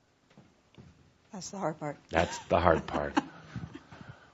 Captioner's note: she chuckles